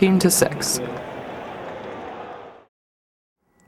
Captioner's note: crowd noise and cheering